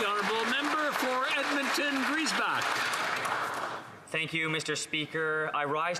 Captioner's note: applause